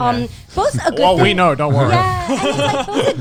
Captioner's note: laughs